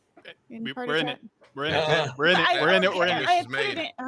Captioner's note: murmurs